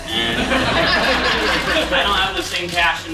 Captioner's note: audience laughs